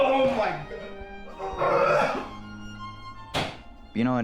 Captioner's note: puke sounds